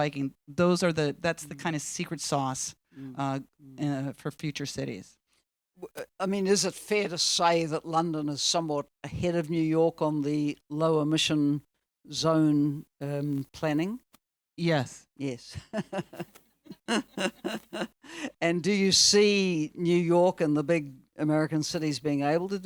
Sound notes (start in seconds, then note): 16.6 laughs